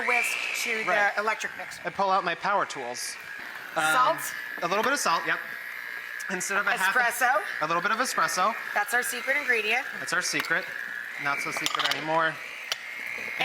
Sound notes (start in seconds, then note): none